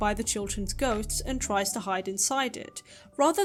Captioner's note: none